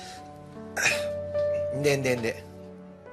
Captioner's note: sighs